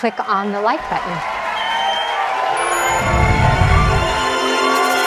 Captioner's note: audience cheering